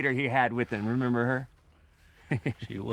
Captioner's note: chuckles